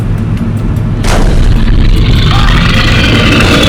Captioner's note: glass breaks; bear growling